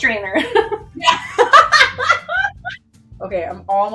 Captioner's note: laughs